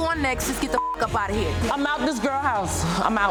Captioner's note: beep